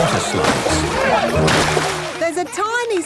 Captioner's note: laughing